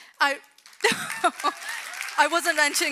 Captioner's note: audience claps; chuckles